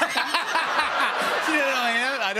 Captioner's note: laughter